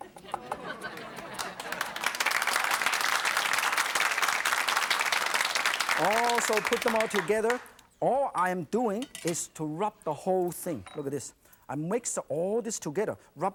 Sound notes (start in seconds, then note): 2.0 audience applauding